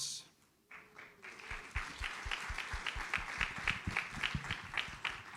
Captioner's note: audience applauds